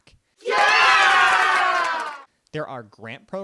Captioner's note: cheering